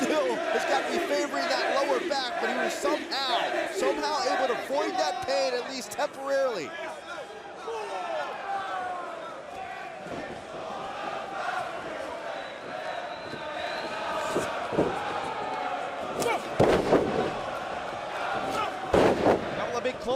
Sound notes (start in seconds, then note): 7.6 crowd chatter